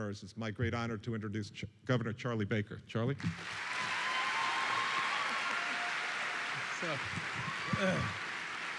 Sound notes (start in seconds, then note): 3.2 applause and cheering